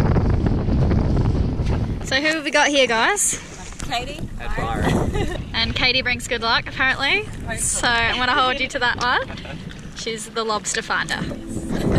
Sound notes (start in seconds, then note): 9.5 laughing